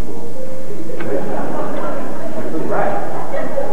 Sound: laughter

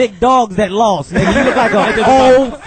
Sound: all laugh

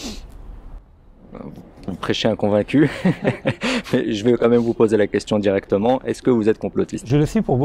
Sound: both laughing

